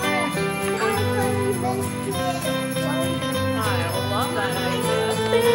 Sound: muffled conversation

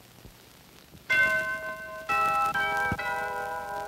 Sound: doorbell chiming

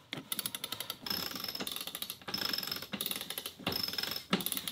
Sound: pulley creaking

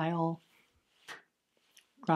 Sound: clap

